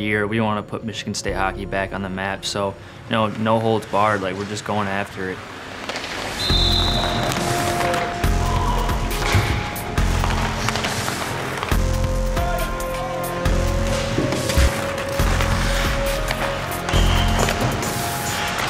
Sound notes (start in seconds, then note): 6.4 whistle blows; 10.1 intense music